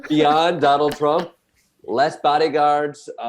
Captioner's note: panelists laughing